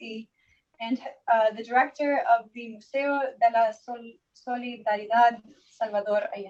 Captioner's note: foreign language